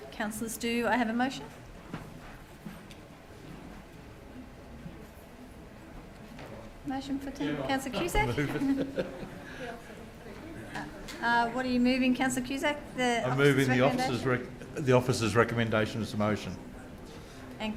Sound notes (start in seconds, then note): 8.0 laughing